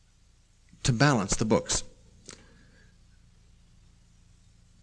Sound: pause

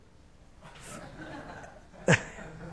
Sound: laughing

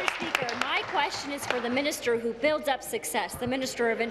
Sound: applause

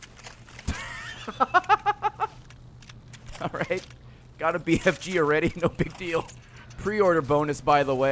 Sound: laughs

